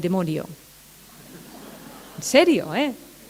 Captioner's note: laughter